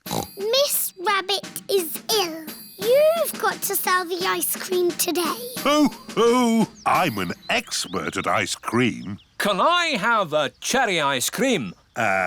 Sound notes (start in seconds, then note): 0.0 snorts; 5.1 laughs